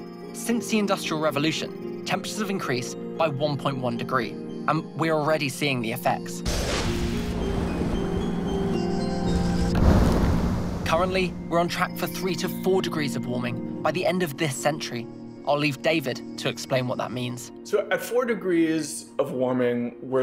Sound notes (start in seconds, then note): 6.4 lightning strikes; 7.6 flood rushes; 9.2 iceberg collapses